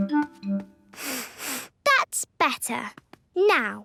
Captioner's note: sniffs